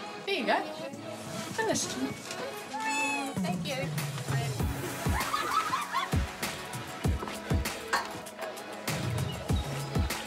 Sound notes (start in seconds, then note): 4.9 all laugh; 7.1 upbeat music